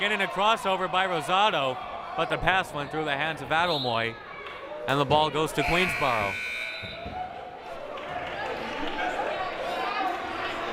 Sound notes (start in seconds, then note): 7.0 crowd murmuring